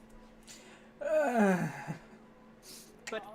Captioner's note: exasperated noise